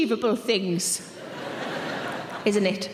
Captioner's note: audience laughing